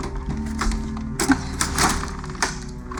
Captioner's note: latch snaps open